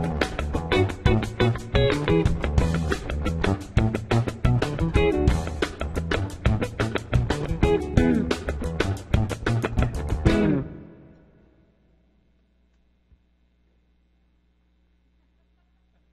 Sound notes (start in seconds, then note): 0.2 funky soul music; 10.1 music stops